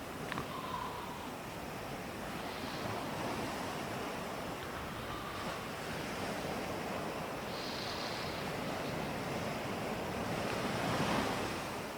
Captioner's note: breathing in and out through the nose